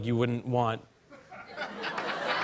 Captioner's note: laughter